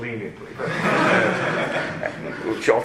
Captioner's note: laughter